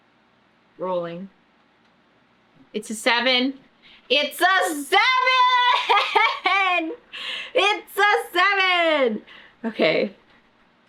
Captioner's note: laughs